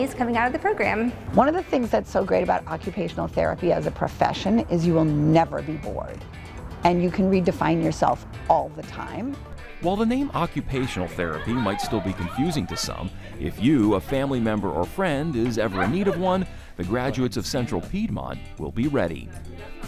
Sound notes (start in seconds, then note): 13.4 class exclaims; 15.3 student laughs